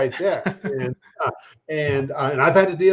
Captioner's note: chuckles